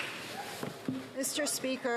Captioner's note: some Applause